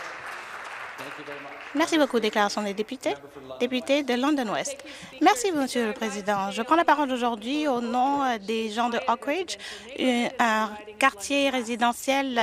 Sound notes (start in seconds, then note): 0.0 some Applause